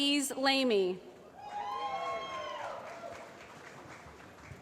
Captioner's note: applause